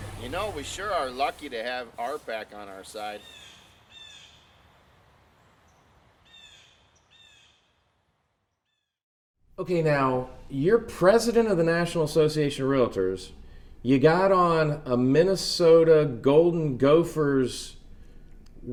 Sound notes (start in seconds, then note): 3.0 birds cawing